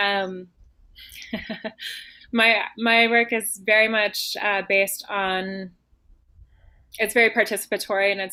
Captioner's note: laughs